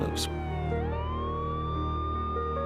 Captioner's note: ambulance siren